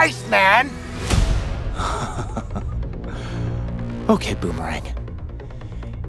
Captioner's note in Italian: risata